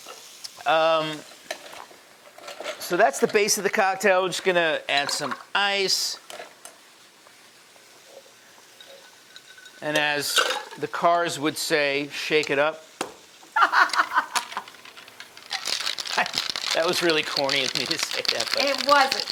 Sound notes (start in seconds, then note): 13.5 laughs; 15.8 ice clattering